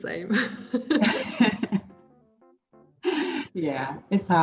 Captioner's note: laughs